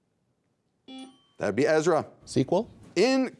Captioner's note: buzzer beeping